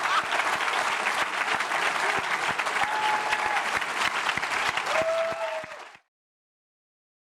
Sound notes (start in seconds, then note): 3.3 audience cheers